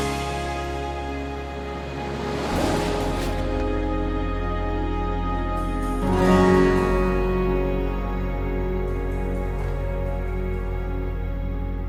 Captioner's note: car engine revs